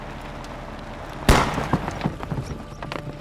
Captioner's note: bang